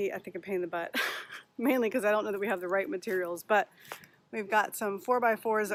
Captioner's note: laughing